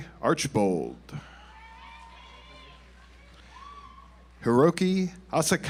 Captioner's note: audience applauds